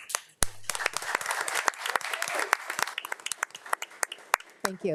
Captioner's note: board of trustees and attendees applauding